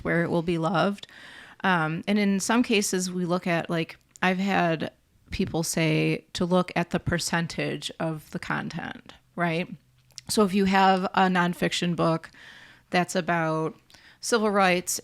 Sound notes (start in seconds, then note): none